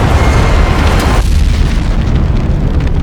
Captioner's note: explosion booms; spacecraft thuds; flames whooshing